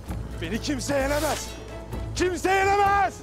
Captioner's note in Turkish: Kılıç çekme sesi